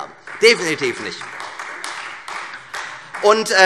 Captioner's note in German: Beifall Freie Demokraten